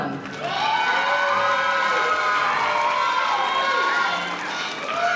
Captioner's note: audience applauding